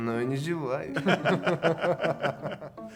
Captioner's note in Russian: смех